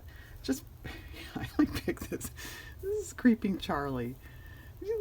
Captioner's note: laughs